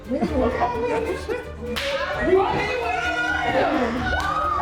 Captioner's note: group exclaiming, yelling